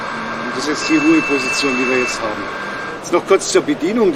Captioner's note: horn sounds briefly and engine noise switches off